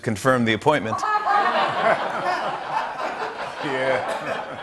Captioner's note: laughter